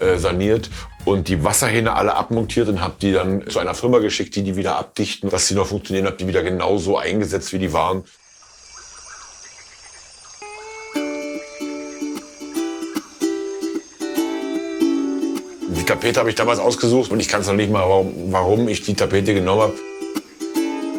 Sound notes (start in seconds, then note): 8.3 birds chirping; 10.6 relaxing music